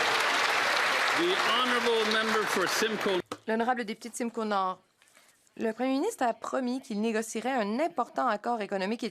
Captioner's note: some Applause